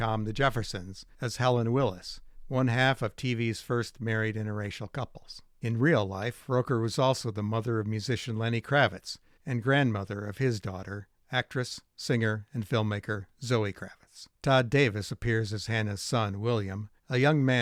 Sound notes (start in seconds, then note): none